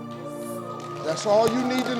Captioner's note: crowd clapping